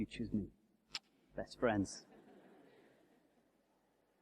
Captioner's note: laughter